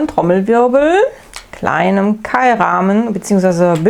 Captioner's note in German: none